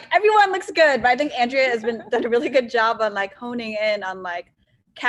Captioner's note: laughs